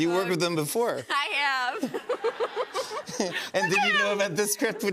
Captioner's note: laughs